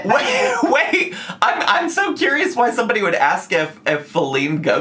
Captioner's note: laughs